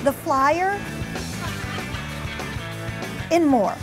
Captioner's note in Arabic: الموسيقى المبهجة مستمرة; الناس يضحكون